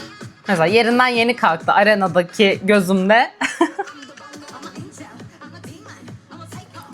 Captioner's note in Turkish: kahkaha